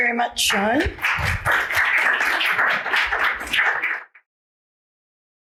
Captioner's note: audience applauding